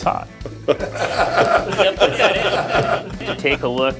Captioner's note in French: en riant